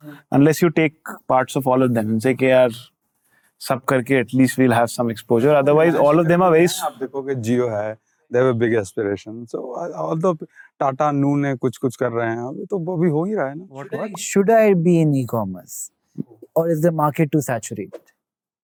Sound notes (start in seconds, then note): 10.7 speaking in Hindi